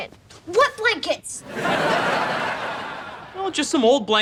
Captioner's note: laughs